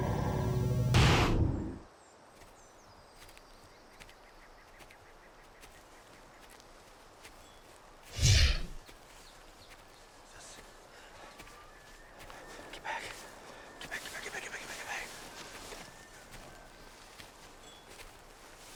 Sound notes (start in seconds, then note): 2.4 soft footsteps; 8.1 air whooshes